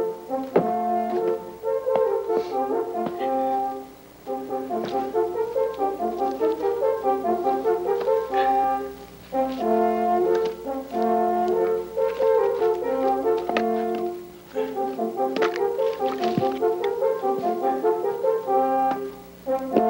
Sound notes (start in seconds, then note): 0.3 footsteps thumping; 9.1 wood thudding